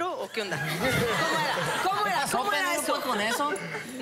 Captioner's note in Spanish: Risas